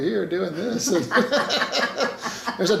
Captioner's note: laughing